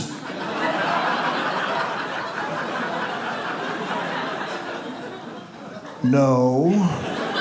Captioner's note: audience laughs